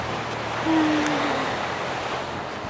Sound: heavy sigh

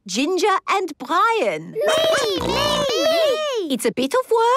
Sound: snorting

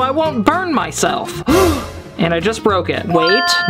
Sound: gasps

